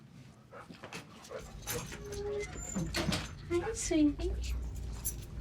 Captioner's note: dog panting